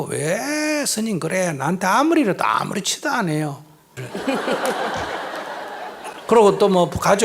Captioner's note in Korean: 청중 웃음